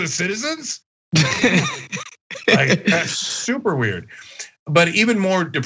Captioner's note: laugh